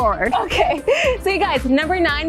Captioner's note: laughs